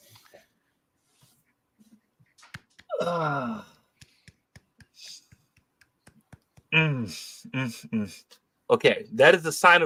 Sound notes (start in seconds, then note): 2.9 sighs; 3.9 quiet clapping